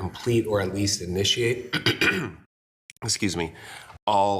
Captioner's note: clears throat